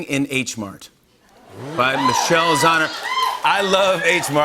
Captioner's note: cheers and applause